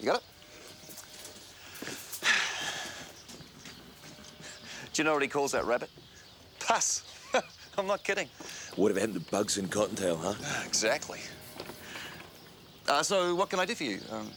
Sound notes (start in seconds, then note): 2.2 Graham sighs; 7.0 chuckles